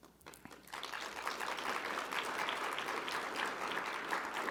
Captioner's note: audience applauding